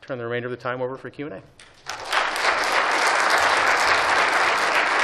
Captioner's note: applause